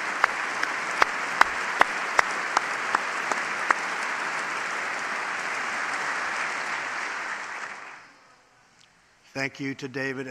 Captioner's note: applause